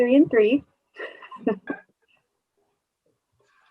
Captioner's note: laughs